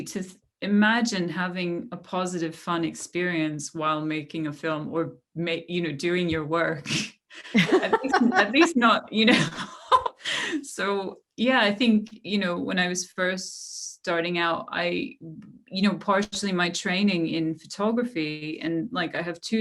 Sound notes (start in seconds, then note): 7.4 laughter